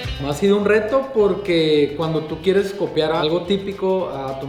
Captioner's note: speaking Spanish